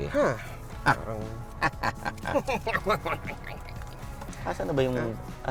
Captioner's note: both laughing sarcastically